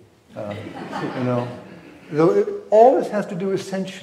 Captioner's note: audience laughs